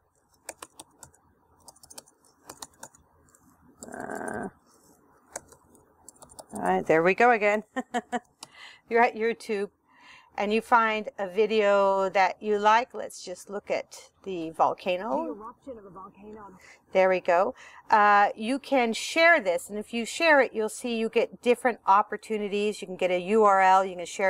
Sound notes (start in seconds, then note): 1.6 typing; 4.2 typing